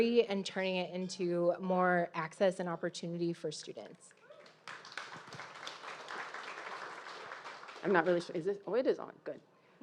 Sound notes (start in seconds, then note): 4.3 audience applauding